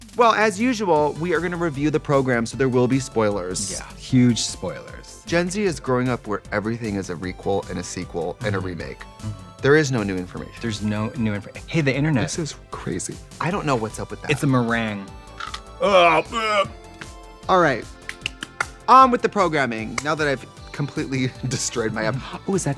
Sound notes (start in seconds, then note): 15.8 Katya crunches, gags; 18.0 Trixie claps